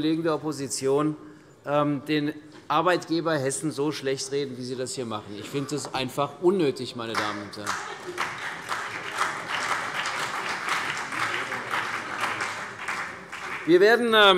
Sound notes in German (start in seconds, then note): 7.1 Beifall CDU und BÜNDNIS 90/DIE GRÜNEN